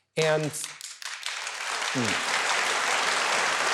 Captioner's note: audience applauds